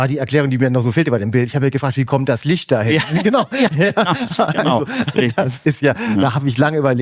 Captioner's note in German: gelächter